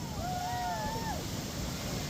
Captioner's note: cheers